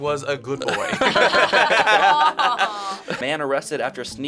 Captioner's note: laughing